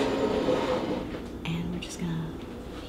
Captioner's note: teapot dragging across table